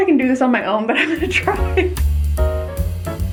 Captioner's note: laughs; jazzy piano music